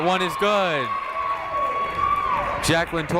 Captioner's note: crowd cheers